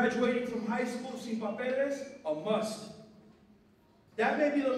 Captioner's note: non-english speech